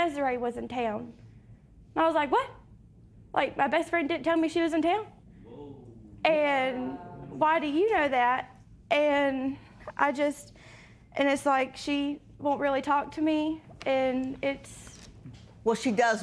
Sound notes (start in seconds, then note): 6.5 spectators murmur